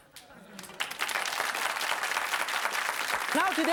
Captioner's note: audience claps